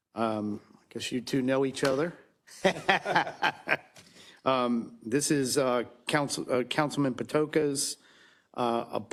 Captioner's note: laugh